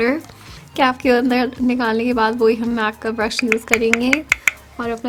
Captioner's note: taps brush